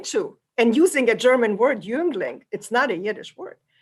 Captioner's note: german